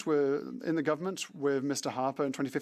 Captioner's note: speaking French